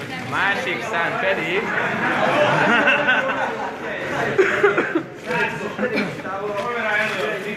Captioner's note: laughter